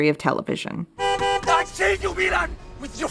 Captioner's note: honking car horn